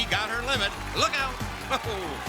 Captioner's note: chuckles